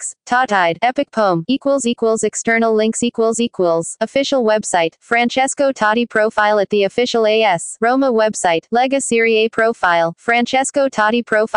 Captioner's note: Italian